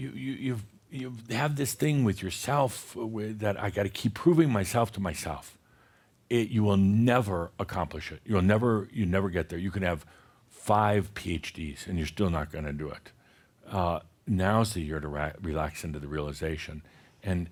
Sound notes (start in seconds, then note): none